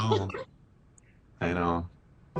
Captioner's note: laughs